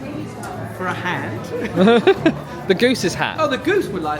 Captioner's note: laughs